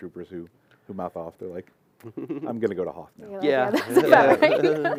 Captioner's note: laughter